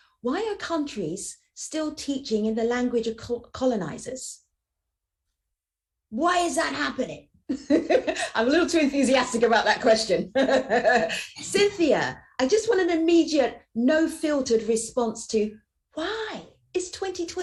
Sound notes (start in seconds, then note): 10.2 laughs